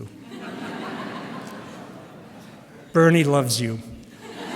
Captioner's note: laughter